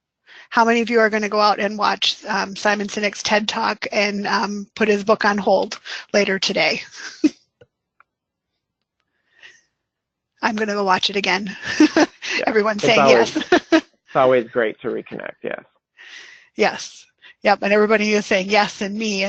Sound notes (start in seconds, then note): 7.6 laughs